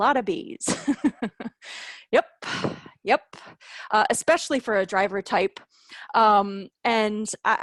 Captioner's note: laughter